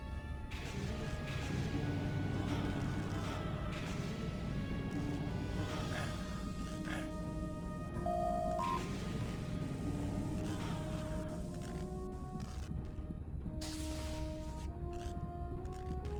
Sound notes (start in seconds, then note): 1.6 electronic sounds